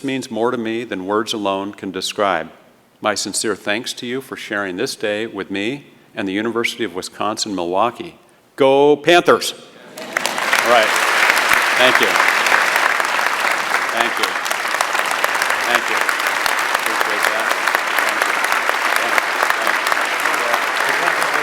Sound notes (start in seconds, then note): 9.9 applause